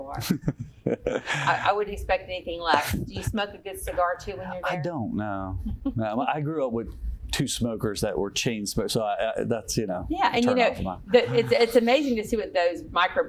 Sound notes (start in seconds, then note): 0.2 chuckle; 5.6 giggle